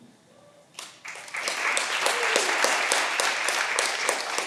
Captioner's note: all applauding